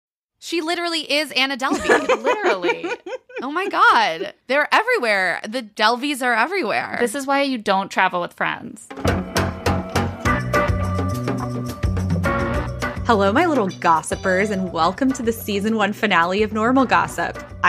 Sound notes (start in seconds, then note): 1.7 laughing; 8.9 intro music